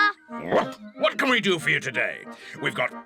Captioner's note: barks